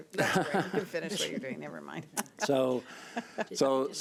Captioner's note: laughs